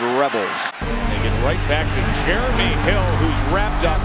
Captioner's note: voiceover